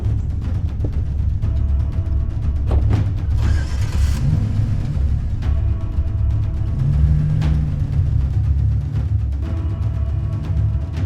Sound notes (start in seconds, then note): 0.3 intense music; 3.2 engine starts